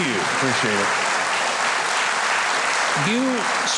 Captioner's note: audience applauds